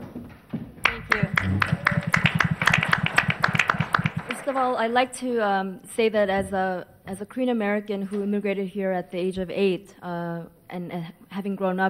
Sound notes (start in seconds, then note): 0.8 applause